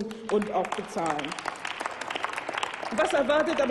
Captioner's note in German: Applaus